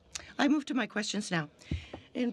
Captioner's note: speaking french